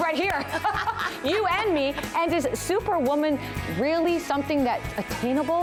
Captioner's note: laughter